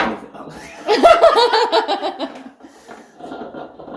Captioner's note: camera-woman laughing